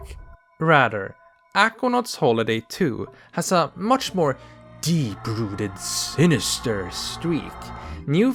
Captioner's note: tormented noises